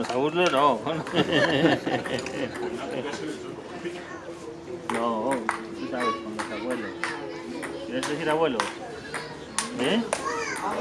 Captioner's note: laughing